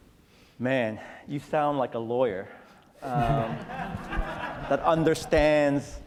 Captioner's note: audience laughs